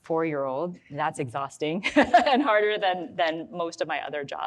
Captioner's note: laughs